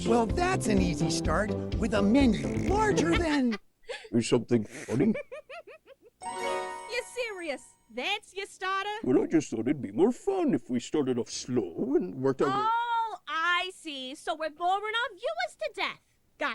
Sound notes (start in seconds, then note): 2.3 laughing